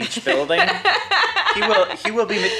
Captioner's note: laughs